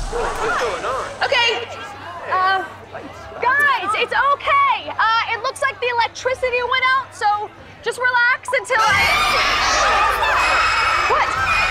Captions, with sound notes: - What's going on? - Okay... Uh... Guys, it's okay. Uh, it looks like the electricity went out, so just relax until I-- [screaming] - What is that? - What?